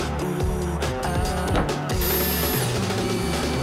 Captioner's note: Hämmern, Zischen